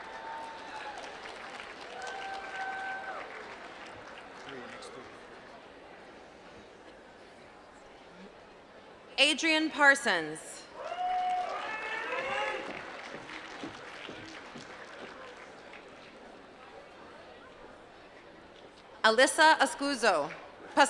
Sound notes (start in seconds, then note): 4.7 applause; 14.8 applause